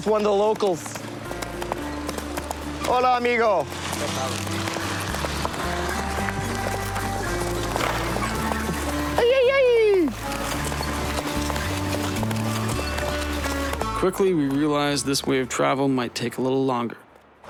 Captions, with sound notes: bit ridiculous to be in the van, so we're just gonna wave down a ride with one of the locals. (Speaking In Foreign Language)